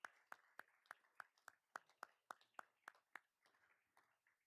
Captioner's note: all applauding